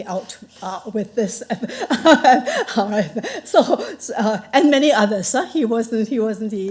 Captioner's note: chuckles